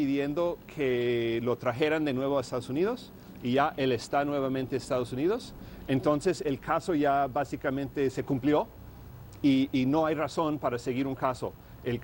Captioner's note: speaking Spanish